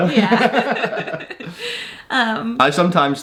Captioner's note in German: beide lachen